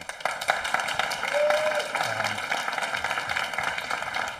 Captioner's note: audience applauding